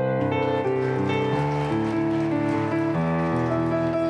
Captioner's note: applause